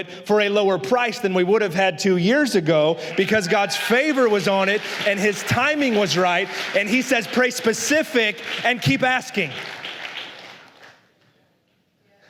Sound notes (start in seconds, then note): 4.2 aplausos de la congregación